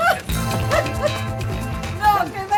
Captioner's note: laugh